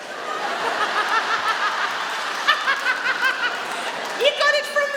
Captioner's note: she laughs